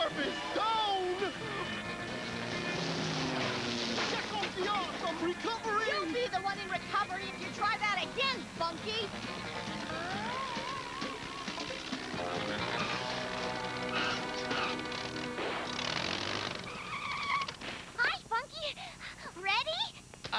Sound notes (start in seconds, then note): 16.6 tires screech